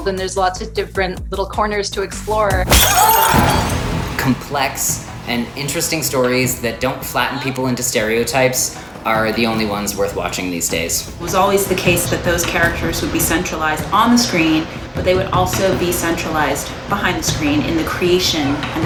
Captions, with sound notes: and there's lots of different little corners to explore. (glass breaks) (men scream) - Complex and interesting stories that don't flatten people into stereotypes are the only ones worth watching these days. - It was always the case that those characters would be centralized on the screen, but they would also be centralized behind the screen in the creation